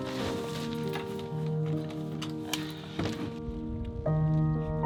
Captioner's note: none